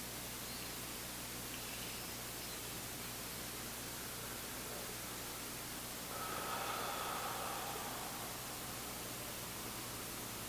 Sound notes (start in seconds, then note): 3.1 inhaling; 6.0 exhaling